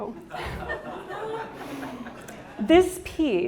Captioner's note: audience laughing